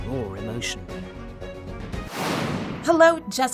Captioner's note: air whooshing